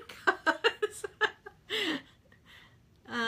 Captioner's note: laughs